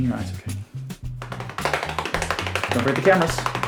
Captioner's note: hands tapping